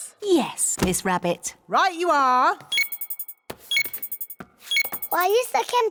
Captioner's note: beeping